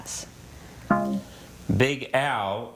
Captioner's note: text buzzing